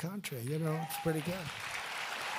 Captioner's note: applause